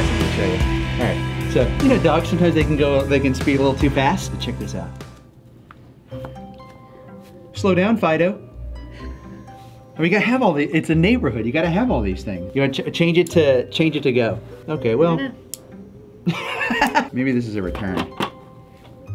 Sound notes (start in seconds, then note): 6.2 slow spooky music; 16.2 laughs